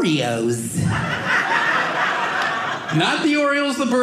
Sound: audience laughing

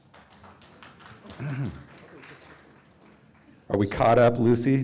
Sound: audience applauding

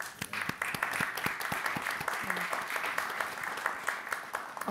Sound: audience clapping

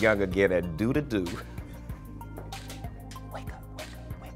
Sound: laughs

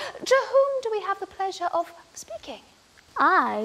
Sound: none

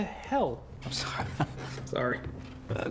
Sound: laughs

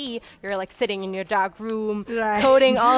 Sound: laughs

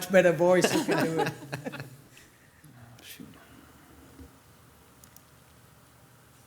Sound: council members laughing

